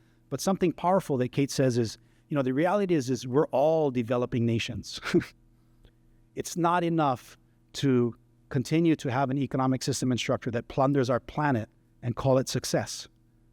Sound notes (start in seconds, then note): 5.0 laughter